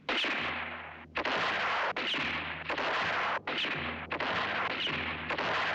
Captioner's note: gunshot; gunshots